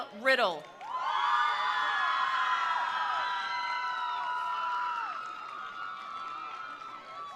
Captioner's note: attendees applauding; attendees cheering